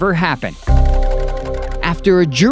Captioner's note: frantic music; photos fluttering